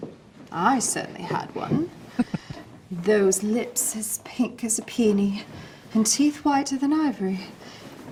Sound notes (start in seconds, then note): 2.1 chuckling